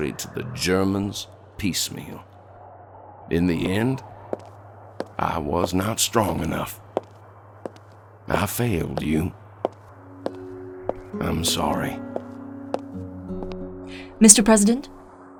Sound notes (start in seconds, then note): 4.3 heels tap against marble; 8.7 heels approach